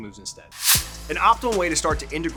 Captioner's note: screen swooshes